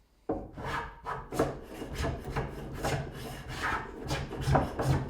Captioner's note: tool scraping